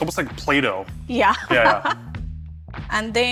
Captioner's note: laughs